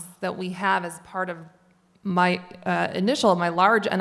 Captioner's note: none